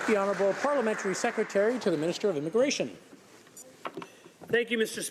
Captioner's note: applause